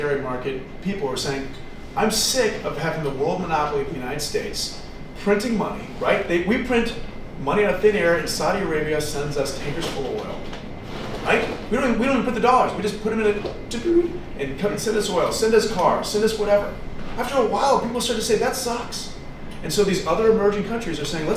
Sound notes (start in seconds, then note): 13.7 computery sound